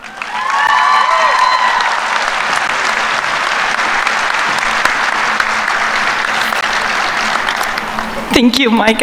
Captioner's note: applause